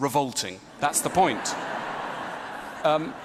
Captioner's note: ضحك